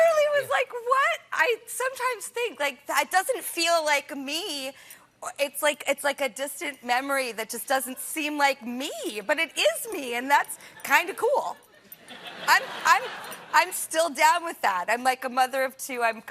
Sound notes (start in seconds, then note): 10.7 laughter